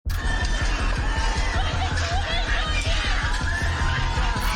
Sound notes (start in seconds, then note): 0.1 crowd protesting